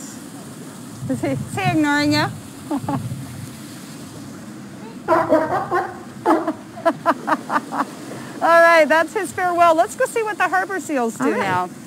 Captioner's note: barking